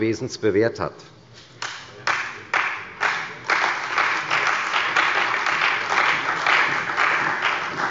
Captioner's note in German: Beifall bei der CDU und der FDP